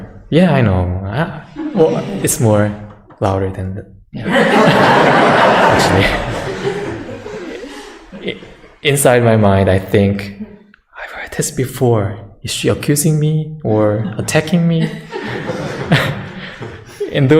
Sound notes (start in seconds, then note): 4.2 audience laughter